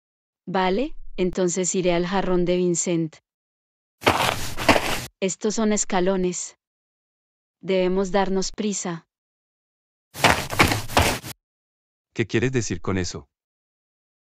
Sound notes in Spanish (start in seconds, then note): 4.0 FX - Footsteps - On Multiple Dirt - Walk; 10.1 FX - Footsteps - On Multiple Dirt - Run